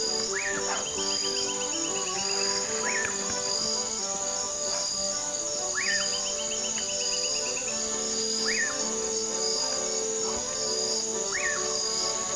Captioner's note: pious of birds and crickets sounds